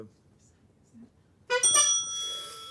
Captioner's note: honk